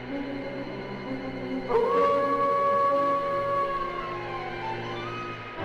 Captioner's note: wolf Howls